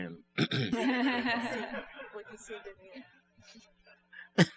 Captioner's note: laughter